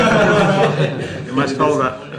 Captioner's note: laughter